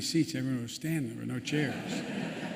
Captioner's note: laughter